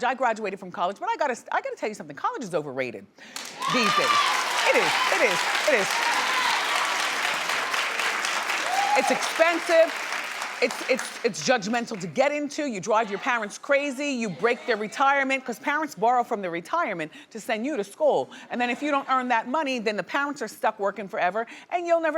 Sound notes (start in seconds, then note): 3.4 audience cheering